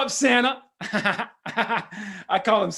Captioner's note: laughs